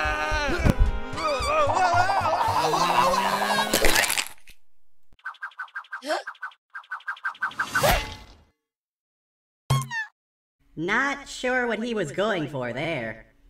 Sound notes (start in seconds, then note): 1.2 Coconut screams as he spins out of control; 3.7 crack; 5.7 Fireball gasps